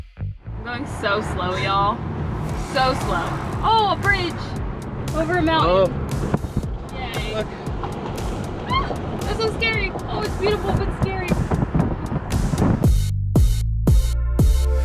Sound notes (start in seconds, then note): 8.6 scream